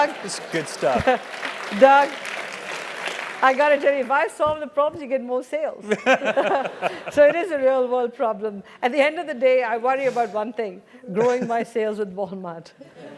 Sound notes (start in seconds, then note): 0.0 applause; 5.9 laugh; 11.3 laugh